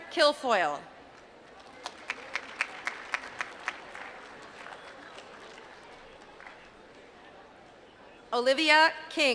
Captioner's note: applause